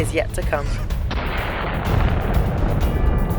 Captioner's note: gunshot; intense music